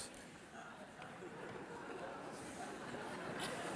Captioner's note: laughter from the audience